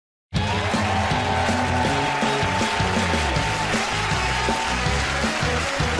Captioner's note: cheers and applause